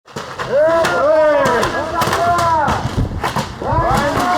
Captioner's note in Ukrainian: стрілянина